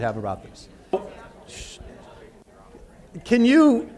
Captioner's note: audience talking